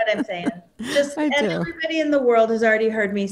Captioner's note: laughs